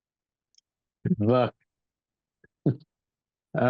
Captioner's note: laughs